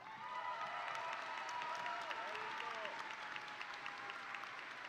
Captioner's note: audience cheering